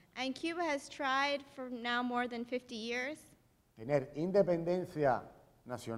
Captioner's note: speaking in Spanish; speaking in Spanish